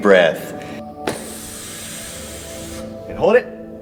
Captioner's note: Adam inhales deeply